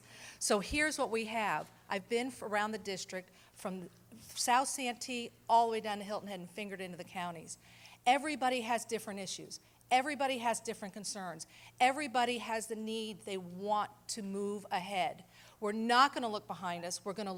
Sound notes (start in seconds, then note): none